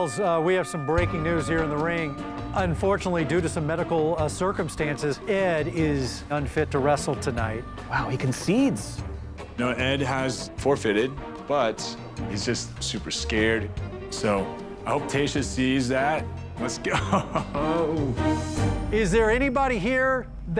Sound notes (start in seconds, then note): 16.8 laughs